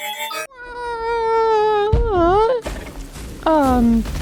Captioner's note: mario noise